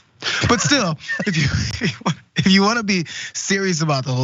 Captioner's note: laugh